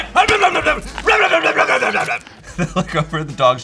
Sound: gobbles cupcakes

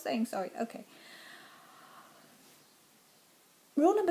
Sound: deep Breath

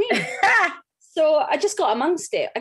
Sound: laughs

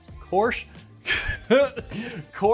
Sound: laughs

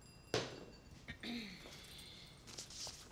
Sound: clears throat

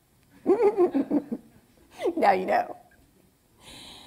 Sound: laughs

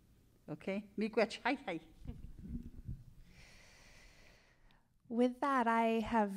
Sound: speaking in Cree

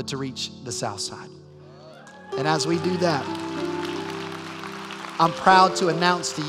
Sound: cheers and applause

